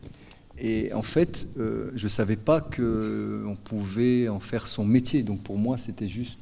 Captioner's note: speaking in French